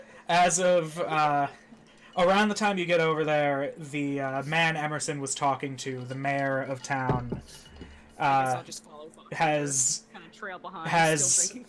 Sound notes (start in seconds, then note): none